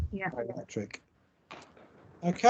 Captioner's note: audience mutter in agreement